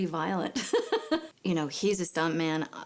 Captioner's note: laughs